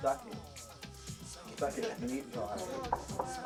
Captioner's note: knock on door